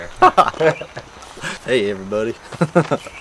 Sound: laughs

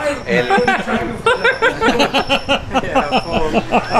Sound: all laugh

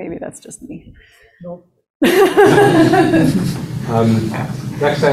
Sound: laughter

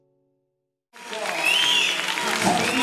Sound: whistling & Applause

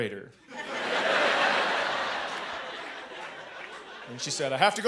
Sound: laughter

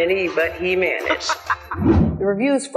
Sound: laughter

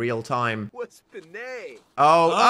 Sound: Evan speaks in Simlish

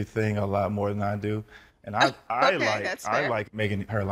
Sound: chuckles

